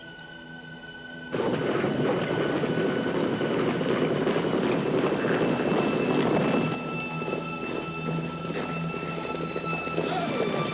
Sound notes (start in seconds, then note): 1.3 horse galloping